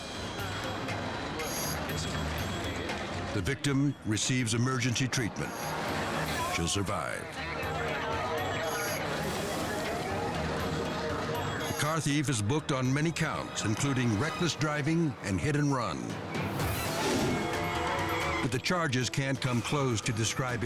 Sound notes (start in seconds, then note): 9.6 suspenseful music; 16.6 screen whooshes